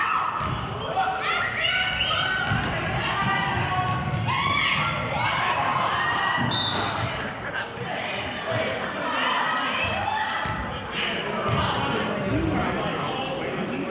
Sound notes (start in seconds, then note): 6.4 whistle blows